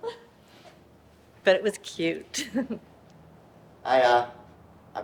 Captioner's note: chuckles